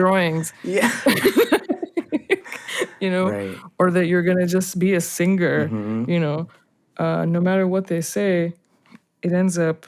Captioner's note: laughter